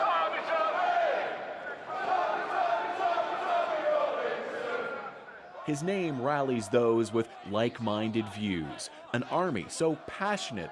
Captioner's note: chanting